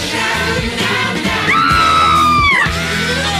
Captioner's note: Sweet Polly Purebred Screams